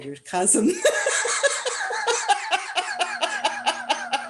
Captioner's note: laughter